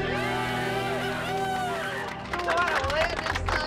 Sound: applause

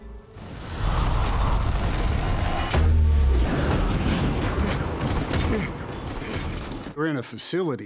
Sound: strong winds

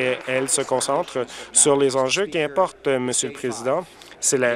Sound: applause

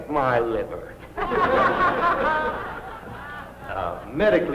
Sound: audience laughs

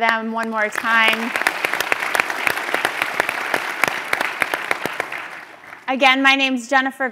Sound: applause

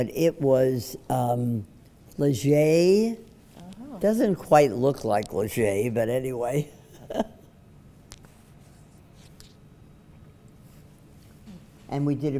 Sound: laughs

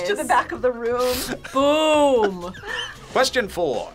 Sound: laughs

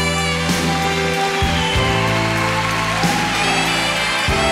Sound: audience applauding

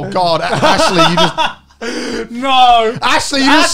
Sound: laughs

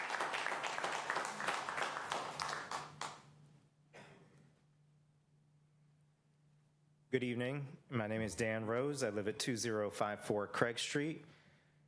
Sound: applause

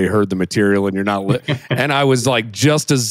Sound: laughs

